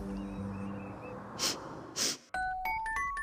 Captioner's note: sniffing